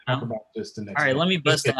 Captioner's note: murmurs